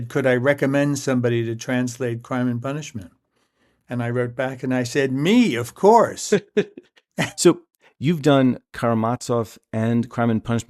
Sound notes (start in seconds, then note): 6.2 laughter